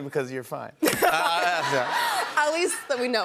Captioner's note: laughter